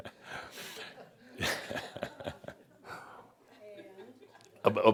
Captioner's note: laughter and chuckles